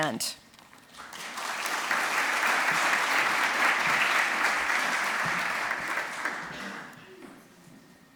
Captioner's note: applause